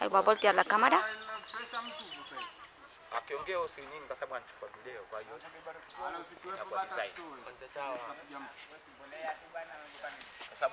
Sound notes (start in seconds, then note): 3.7 Swahili spoken